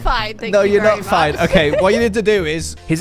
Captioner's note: laughs